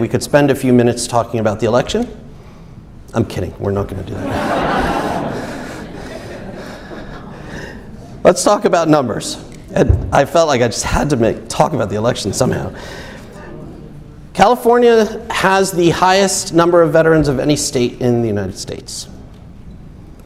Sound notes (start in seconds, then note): 4.1 audience laughs